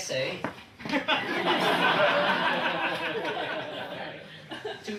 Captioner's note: audience laughing